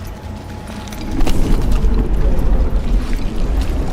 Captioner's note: slow, heavy breathing continues; a deep hum and commotion